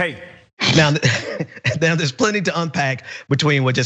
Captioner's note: laugh